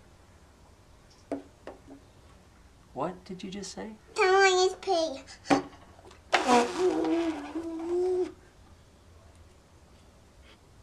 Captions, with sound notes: What did you just say? Toys! Let's play. (blows a raspberry)